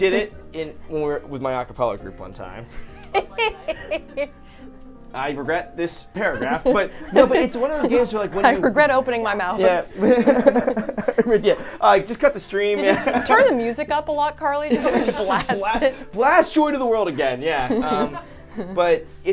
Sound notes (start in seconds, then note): 2.9 laughs; 9.7 all laughing; 17.6 all laughing